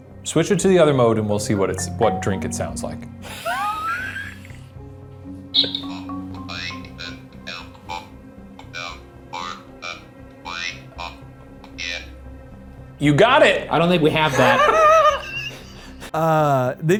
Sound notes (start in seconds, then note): 3.3 laughs; 6.5 recorded Voice; 14.1 laughs